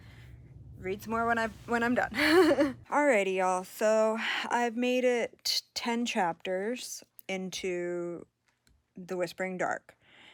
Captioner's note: laughs